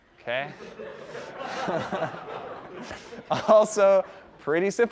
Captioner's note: laughter